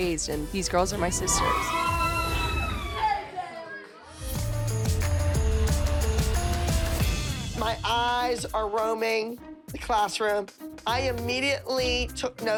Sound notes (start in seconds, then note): 1.0 all squealing excitedly; 4.1 upbeat music playing